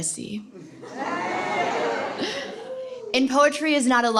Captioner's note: laughter